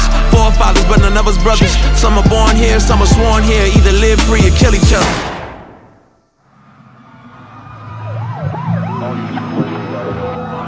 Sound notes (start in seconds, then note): 5.0 gun shoots; 6.5 sirens blaring